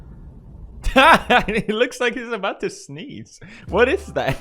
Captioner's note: laughing